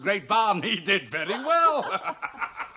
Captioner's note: laughs